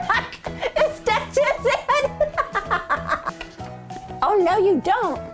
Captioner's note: laughing